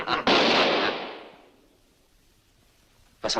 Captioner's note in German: Schuss